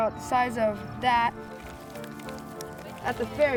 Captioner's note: goat eating hay